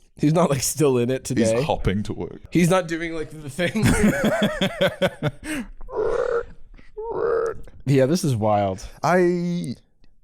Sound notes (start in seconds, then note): 5.8 creaking